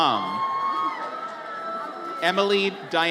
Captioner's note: audience cheers